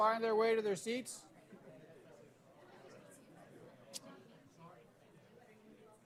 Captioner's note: background chatter